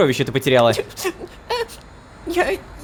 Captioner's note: cries